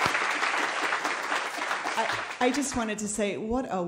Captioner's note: applause